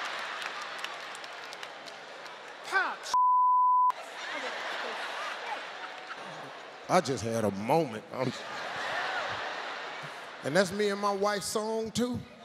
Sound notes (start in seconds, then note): 0.2 audience laughs; 3.1 beep; 4.0 audience laughs; 8.1 audience laughs